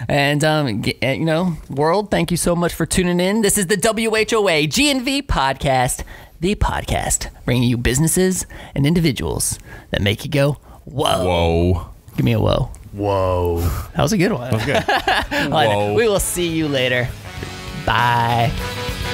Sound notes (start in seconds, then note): 14.5 laughing; 18.9 upbeat music